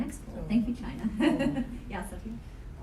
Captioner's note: chuckling